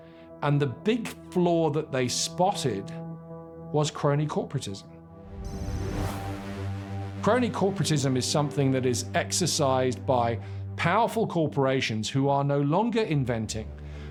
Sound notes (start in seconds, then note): 5.5 computer calculating sound effect